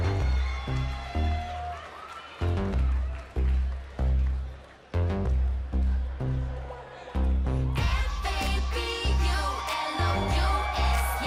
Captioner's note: crowd cheering